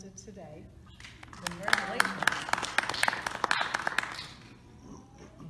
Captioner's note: audience applause